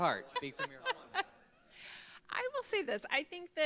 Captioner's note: laughing